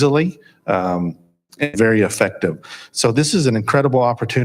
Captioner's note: audio skips